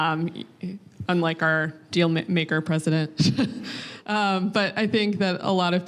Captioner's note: laughing